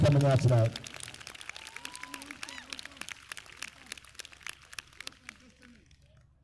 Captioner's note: applause